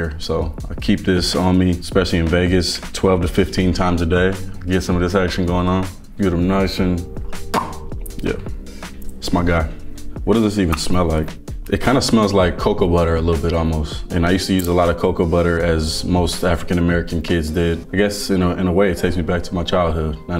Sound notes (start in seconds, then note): 7.3 lips smacking